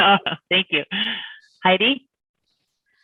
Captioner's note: murmuring; laughs